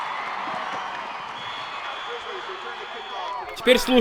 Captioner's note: whistle blowing